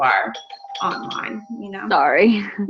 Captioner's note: doorbell ringing